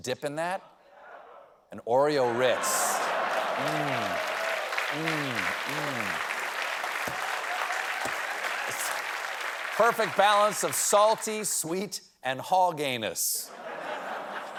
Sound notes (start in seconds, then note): 9.1 applause; 13.5 laughter